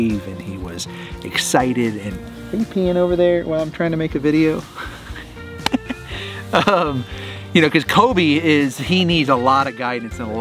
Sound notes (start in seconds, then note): 5.5 Rocky laughs